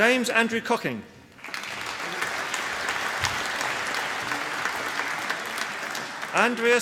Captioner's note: applause